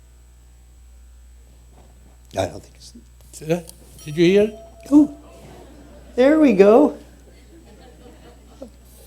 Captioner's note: tone playing